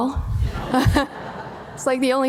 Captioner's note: audience laughing